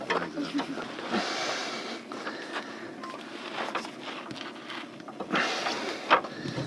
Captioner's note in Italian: respiri di sforzo